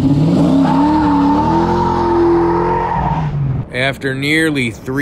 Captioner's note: tires screeching